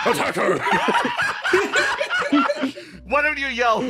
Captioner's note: laughs